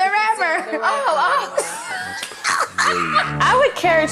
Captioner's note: laughing